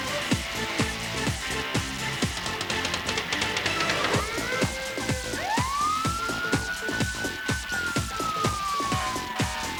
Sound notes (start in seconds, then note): 3.6 sirens blaring